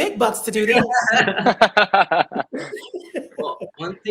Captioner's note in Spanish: todos se ríen